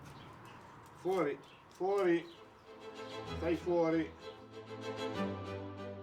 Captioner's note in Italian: il nonno parla in italiano; musica classica